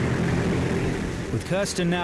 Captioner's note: boat engine roars